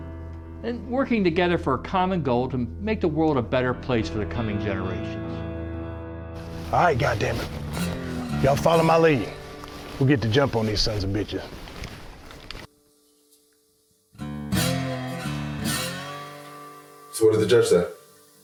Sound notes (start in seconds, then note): 11.6 wind and gun twirling; 18.2 silence